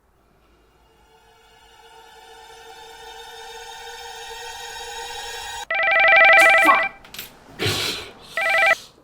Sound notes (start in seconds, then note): 0.1 suspenseful music; 5.7 telephone ringing